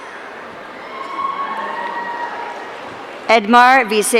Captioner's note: audience cheering